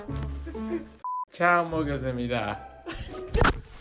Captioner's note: comical music; speaks in Korean; comical music